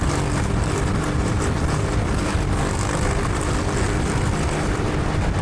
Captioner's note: engine revving